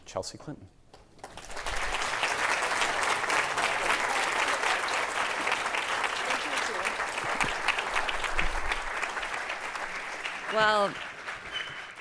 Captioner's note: applause